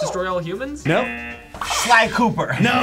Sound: buzzer

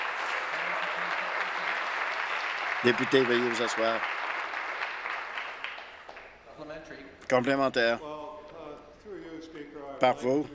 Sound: applause

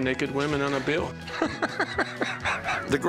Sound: laughs

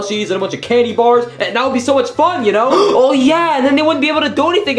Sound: Luigi gasping

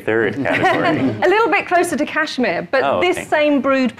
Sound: chuckling

